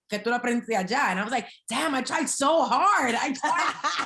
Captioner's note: laughing